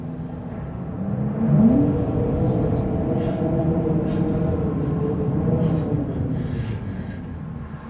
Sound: eerie Wind Howling

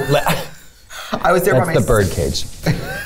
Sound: laughter

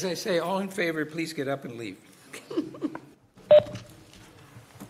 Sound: laughter

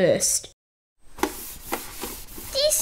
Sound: swish! Swish!

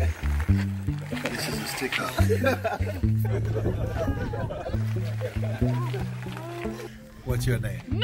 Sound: laughter

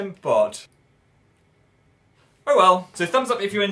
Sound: awkward silence

